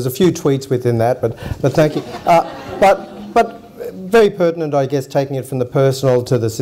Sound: audience laughs

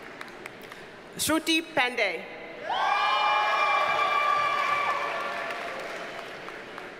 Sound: audience cheers and applauds

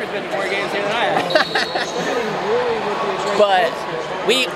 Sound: laughing

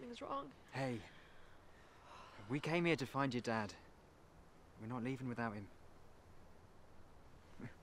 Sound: none

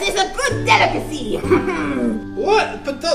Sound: Hook laughs; voiceover

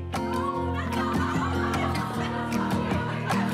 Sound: laughing

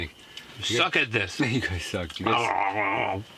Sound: loud chomping growl; laughing

